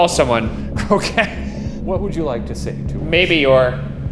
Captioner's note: laughing